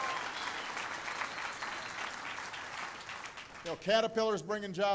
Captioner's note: applause